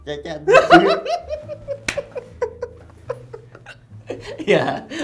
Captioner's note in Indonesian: ketawa